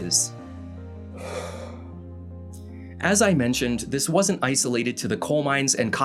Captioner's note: calming breath